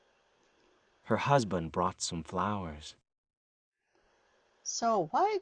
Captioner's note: normal sounding voice